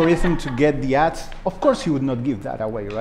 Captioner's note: laughter